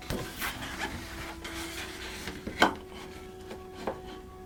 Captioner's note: paper sliding